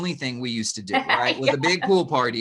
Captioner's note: laughing